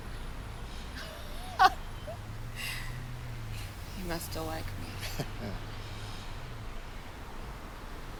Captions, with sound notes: (Laura laughs) - You must still like me. (Chris chuckles)